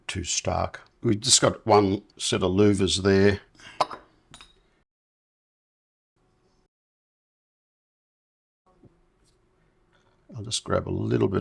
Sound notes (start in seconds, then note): 3.5 silence